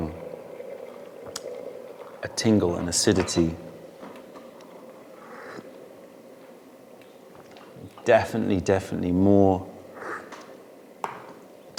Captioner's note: sips tea; sips tea